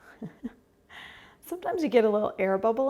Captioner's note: laughs